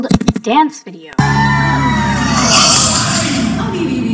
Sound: cheering

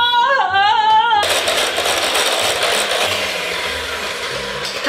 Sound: mixer whirs

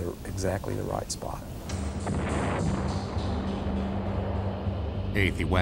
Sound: explosion

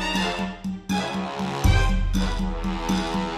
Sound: none

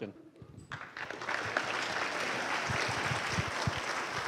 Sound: applause

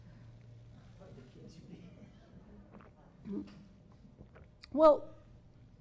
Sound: audience member speaks off-microphone

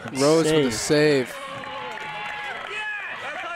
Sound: cheering

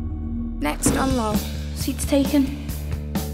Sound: voiceover

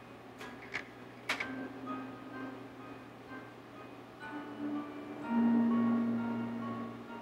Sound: solemn music; projector clicking

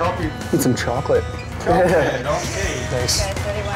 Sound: laughs

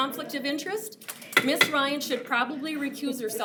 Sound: gavel pounds

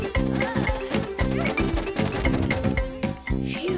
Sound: grunting

